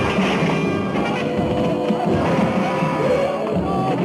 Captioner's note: woman shouting